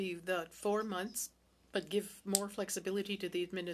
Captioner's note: speaking French